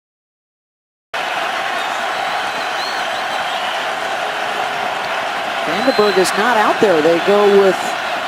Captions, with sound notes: *Cheering* VandeBerg is not out there, they go with